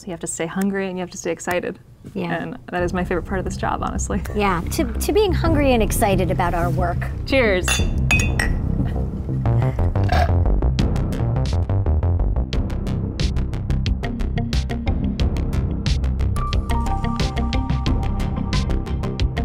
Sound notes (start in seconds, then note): 7.6 glasses clanking; 10.0 dramatic music